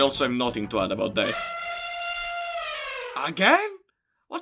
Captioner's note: elephant sound